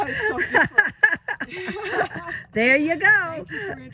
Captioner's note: women laughing